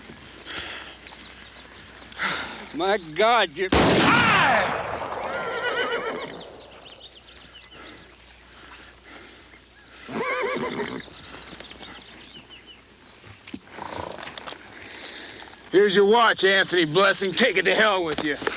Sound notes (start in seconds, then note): 3.7 gun fires; 3.9 Anthony groans; 5.0 horse neighs; 10.0 horse neighs